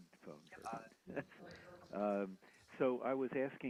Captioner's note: mumbles off mic